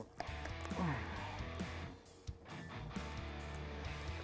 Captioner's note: grunting